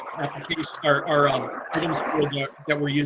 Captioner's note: audio feedback drowning out speaker